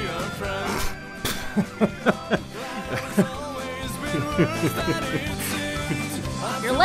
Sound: chuckles; snorts

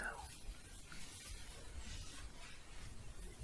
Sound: shuffling

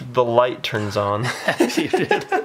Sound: laughter

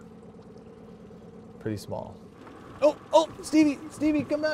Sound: boat engine idling

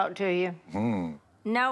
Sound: on phone

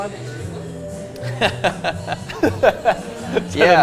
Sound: both men laugh

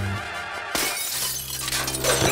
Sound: glass breaking

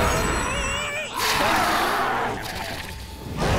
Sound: screeching

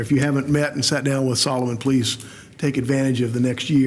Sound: none

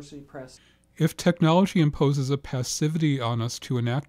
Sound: voiceover

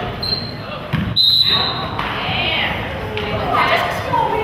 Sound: whistle blows

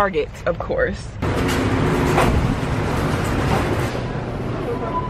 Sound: trolley sounds

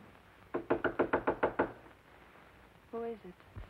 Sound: knocking on door

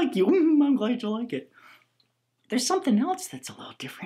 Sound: giggles

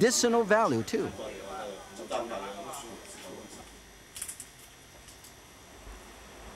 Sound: speaking in foreign language

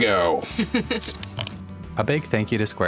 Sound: laughing

